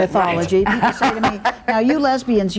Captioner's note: laughter